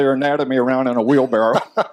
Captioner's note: laughter